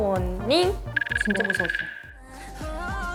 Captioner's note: shivering